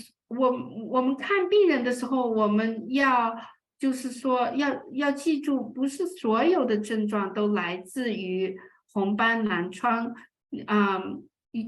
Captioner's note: speaking chinese